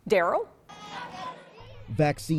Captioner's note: group shouting